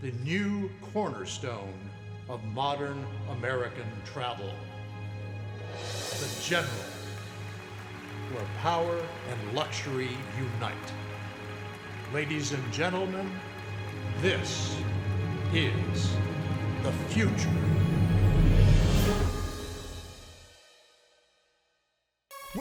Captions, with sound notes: the new cornerstone of modern American travel, the General (audience clapping) where power and luxury unite. Ladies and gentlemen, this is the future. (dramatic music)